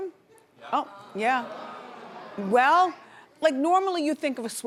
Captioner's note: audience groans